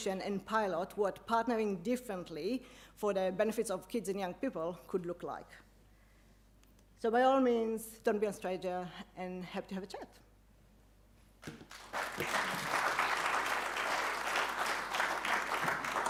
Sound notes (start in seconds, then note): 11.4 audience clapping